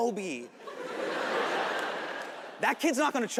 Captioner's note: audience laughing